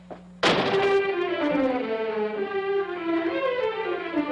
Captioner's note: door slams loudly; tense orchestral music